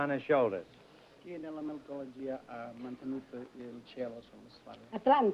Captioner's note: speaking italian